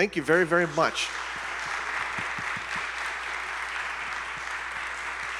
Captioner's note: audience applauding